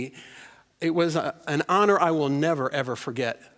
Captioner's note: none